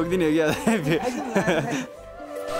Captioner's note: laughs